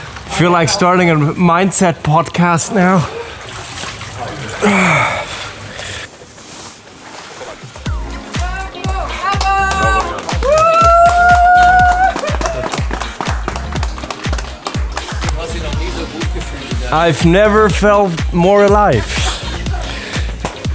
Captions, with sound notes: I feel like starting a mindset podcast now. *groaning* Bravo! *clapping and cheering* I've never felt more alive.